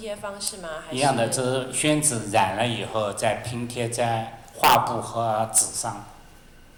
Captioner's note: Mandarin